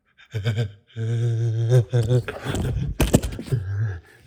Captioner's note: giggles creepily